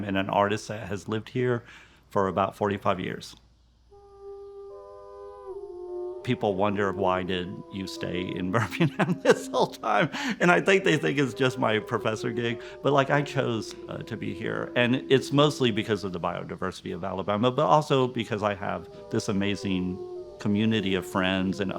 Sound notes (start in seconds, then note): 4.2 gentle music continues; 8.5 laughs